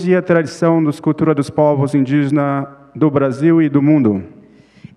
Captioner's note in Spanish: Ponente habla en portugués